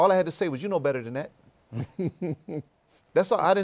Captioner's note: laughs